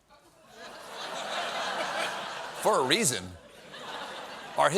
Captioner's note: laughter